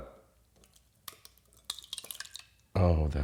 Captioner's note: kefir sloshing